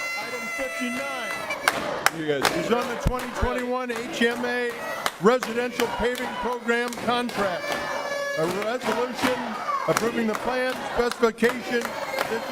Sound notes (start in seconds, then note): 0.0 audience chanting we vote no